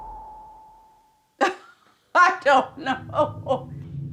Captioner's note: laughs